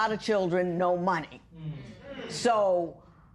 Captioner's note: spectators murmur